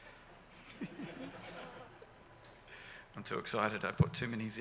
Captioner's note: audience laughs